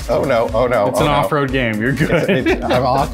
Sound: chuckling

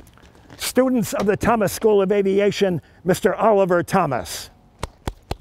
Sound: clapping

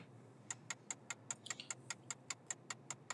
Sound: ticking

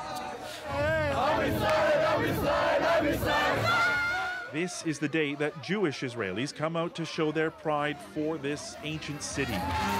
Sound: chanting

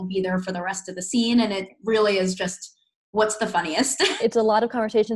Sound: giggles

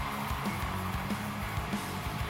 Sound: crowd cheering

